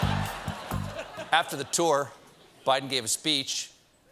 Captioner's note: laughter